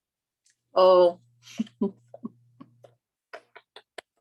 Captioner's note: chuckles